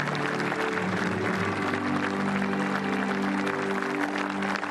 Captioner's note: applause